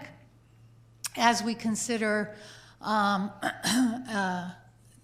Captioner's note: clearing throat